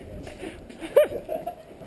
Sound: giggling continues

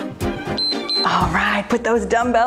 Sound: timer beeps

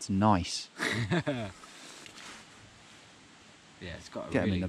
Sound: chuckling

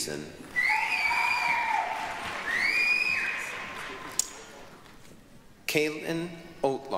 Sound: applause, cheering

